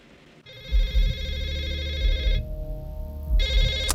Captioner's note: phone ringing